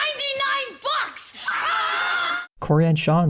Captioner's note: scream